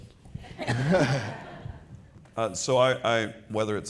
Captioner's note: people laughing